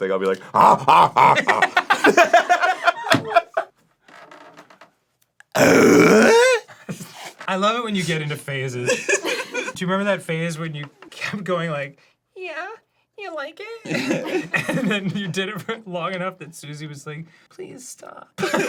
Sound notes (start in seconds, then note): 0.3 everyone laughs; 0.4 tim allen bark-like laugh